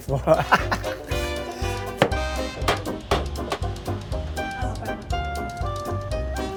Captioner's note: laughing; knives chopping